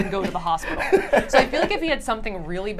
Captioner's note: laughs